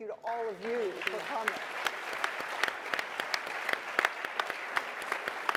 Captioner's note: applause